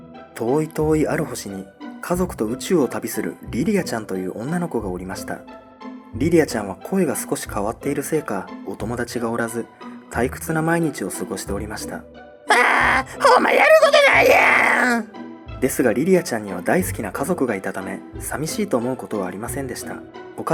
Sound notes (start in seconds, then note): 12.6 sigh